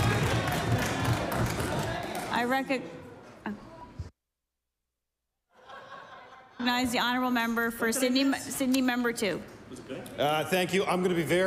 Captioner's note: applause